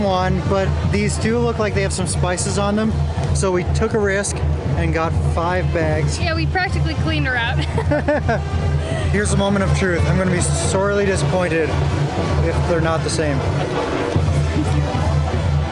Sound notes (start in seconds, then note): 7.5 laughter